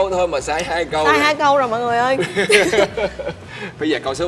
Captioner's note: laugh